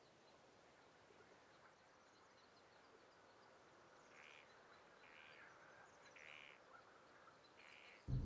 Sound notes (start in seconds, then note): 3.0 sounds of nature